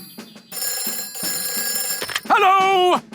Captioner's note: telephone ringing